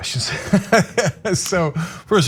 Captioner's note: laugh